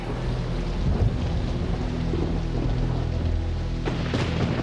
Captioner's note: ominous music continues; thunder rumbles